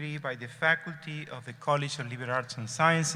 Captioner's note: none